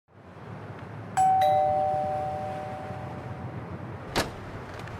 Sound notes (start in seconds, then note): 1.2 doorbell; 4.1 door opens